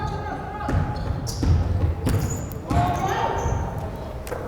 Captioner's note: crowd chattering